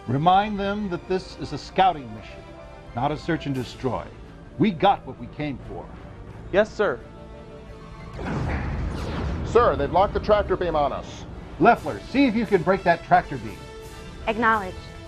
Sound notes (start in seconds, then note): 8.1 explosion